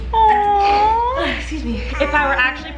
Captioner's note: sneezing